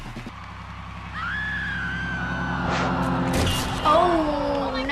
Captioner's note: Amber screaming